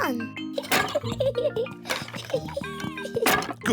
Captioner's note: laughs